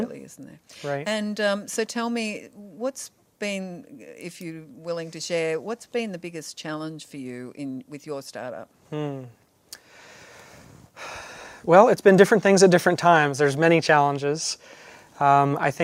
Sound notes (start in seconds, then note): 8.9 sighing